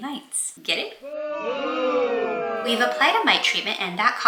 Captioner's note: crowd boos sfx